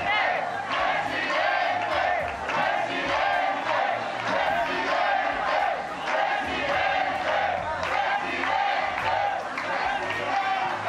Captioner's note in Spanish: algarabía